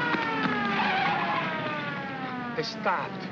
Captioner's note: siren wailing; tires screech